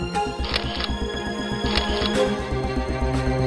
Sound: clicking

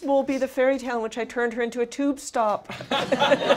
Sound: laughter

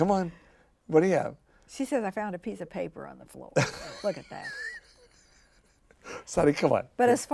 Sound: laughs

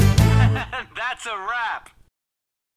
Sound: laughing

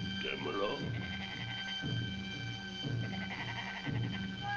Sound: animal bleating

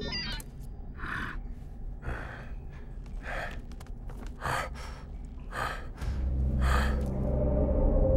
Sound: beeping; panting

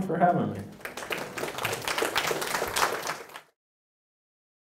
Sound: audience applauds

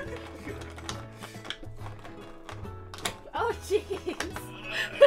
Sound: laughs; laughs; grunts

